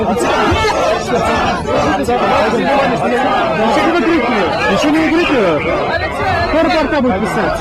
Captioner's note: crowd chanting «Shame! Shame!»